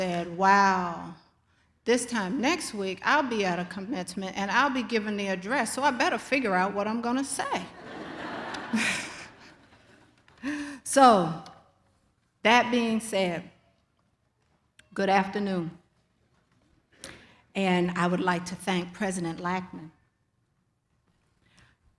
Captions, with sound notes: "Wow, this time next week, I'll be at a Commencement, and I'll be giving the address, so I better figure out what I'm gonna say." (audience laughs) (laughs) So, that being said, good afternoon, and I would like to thank President Laackman,